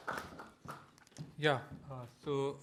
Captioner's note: applause